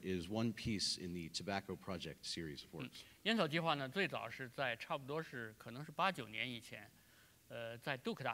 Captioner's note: speaking in Chinese; speaking in Chinese